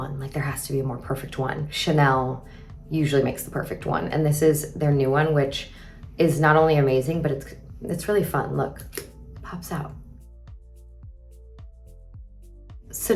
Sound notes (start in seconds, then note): 8.7 mascara clicks; 10.3 gentle upbeat music continues